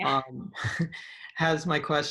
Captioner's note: chuckles